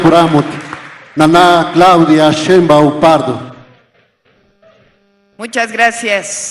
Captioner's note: applause